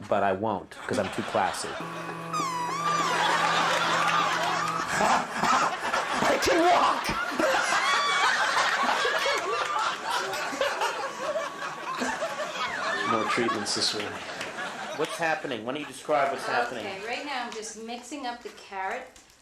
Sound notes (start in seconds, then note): 1.8 whistling suction; 4.4 laughing